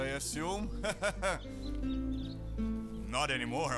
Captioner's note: laughing